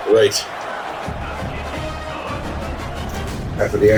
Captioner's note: crowd Noises